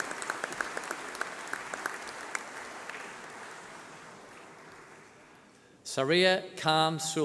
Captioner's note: applause